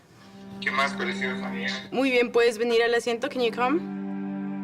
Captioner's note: audio of speaking Spanish